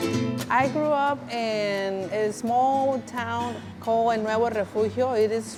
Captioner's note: spanish